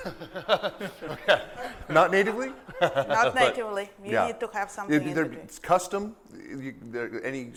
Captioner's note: laughter